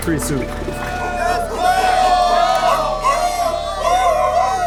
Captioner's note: crowd cheering